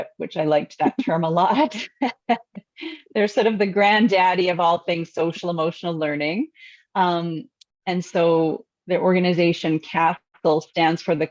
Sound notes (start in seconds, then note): 0.8 laughs; 1.6 chuckles